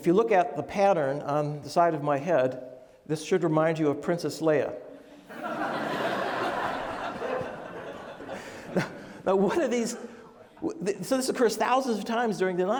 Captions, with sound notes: And if you look at the pattern on the side of my head, this should remind you of Princess Leia. (laughing) Now what are these... So this of course occurs thousands of times